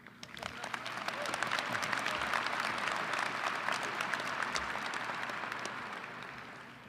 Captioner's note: applause